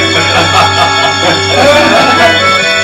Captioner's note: chuckle